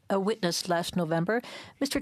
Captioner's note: speaking French